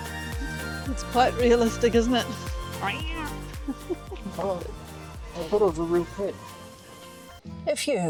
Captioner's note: meow